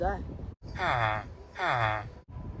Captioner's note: villager noises